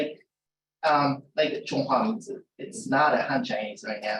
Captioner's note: non-english speech